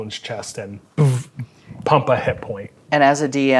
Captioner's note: buzzes